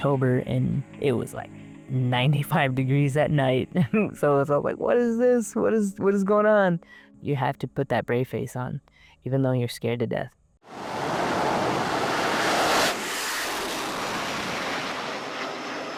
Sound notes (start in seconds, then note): 10.7 jet zooming